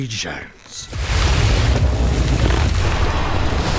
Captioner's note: waves crashing